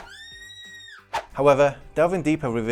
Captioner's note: scream